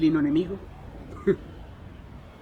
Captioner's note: laughs